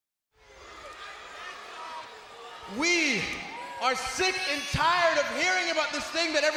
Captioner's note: crowd calls out randomly